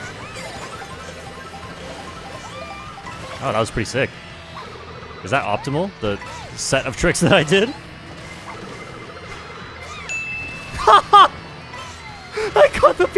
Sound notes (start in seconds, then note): 10.6 laughs